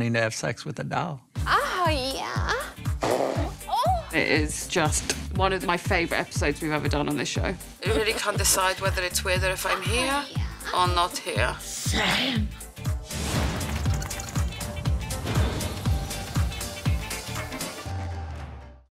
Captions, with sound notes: to have sex with a doll. Oh, yeah. [BLOWING A RASPBERRY] Oh. It is just one of my favorite episodes we've ever done on this show. I really can't decide whether it's weirder if I'm here or not here. Same. [WHIMSICAL MUSIC]